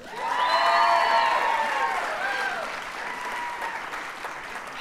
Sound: audience cheers and applauds

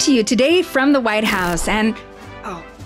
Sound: glitch sound effect

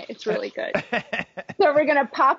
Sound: chuckles

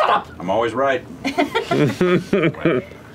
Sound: laughter

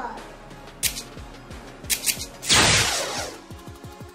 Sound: laser shot; electric sound

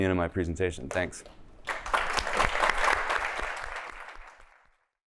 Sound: applause

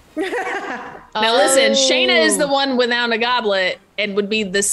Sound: laugh

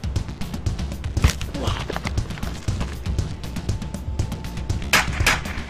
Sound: man groaning; neck squelching; gun firing

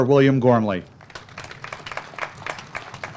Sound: applause

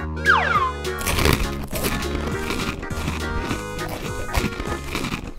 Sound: chewing and crunching noises

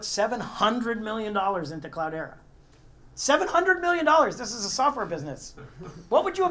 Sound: laugh

